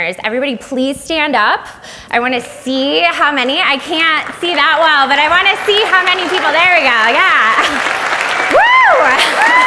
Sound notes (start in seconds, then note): 3.2 audience applauds